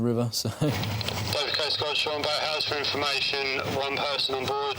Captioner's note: radio